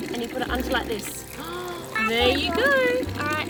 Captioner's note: water running